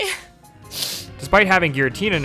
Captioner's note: sniffle